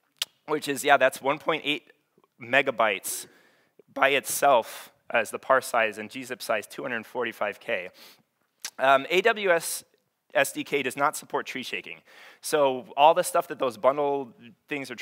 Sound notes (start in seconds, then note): none